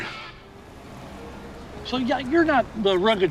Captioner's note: engine whirring